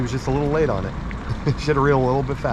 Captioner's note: chuckling